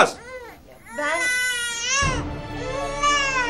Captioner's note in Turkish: Bebek ağlar